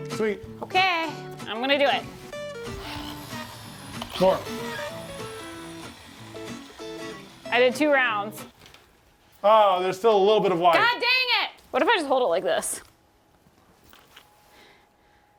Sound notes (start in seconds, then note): 2.2 power drill whirring